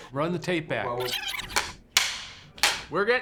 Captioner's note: laughing